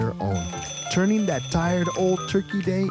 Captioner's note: alarm sounds